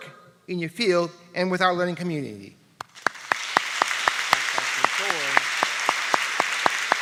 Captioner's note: applause